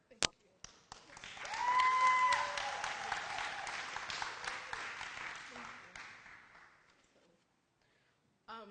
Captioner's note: applause